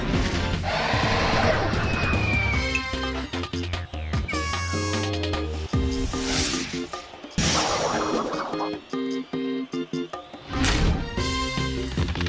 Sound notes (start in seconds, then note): 4.3 air horn blows; 6.1 whooshing